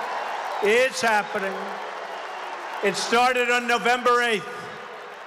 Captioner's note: applause